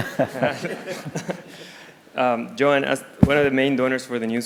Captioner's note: laugh